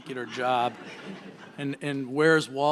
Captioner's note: laughter